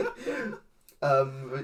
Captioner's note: laugh